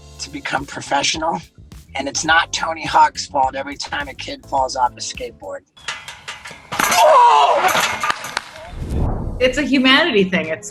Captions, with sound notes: to become professional and it's not Tony Hawk's fault, every time a kid falls off a skateboard. (metal rattling) (grunting and screaming) - It's a humanity thing.